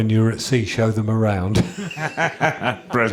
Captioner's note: chuckles